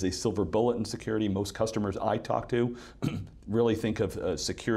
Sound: clears throat

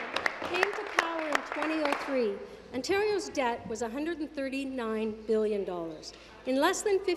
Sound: applause

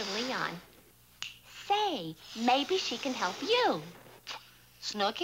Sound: snaps fingers

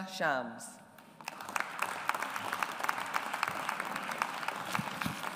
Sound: audience applauds

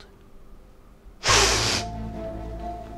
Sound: sniffs loudly; tense music

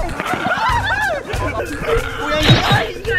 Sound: screams

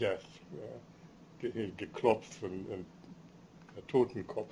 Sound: speaking german

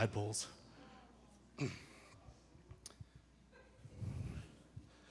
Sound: audience gasping

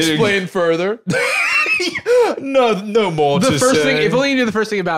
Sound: laughs

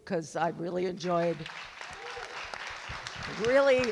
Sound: audience clap

